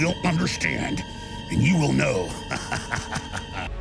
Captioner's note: maniacal chuckle